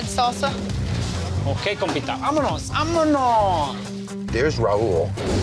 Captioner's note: speaking spanish